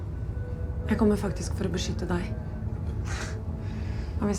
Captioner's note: scoffs